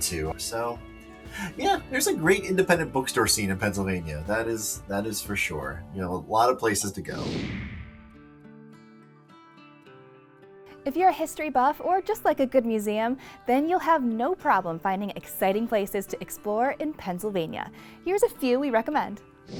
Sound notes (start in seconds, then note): 7.0 computer whooshing; 8.3 low peaceful music; 19.3 computer whooshing